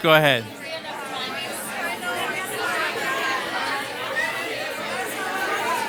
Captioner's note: participants conversing